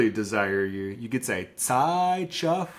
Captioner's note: speaks in Lushootseed